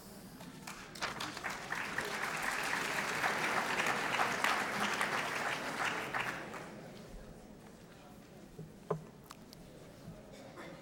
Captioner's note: applause